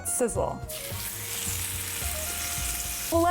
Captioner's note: sizzling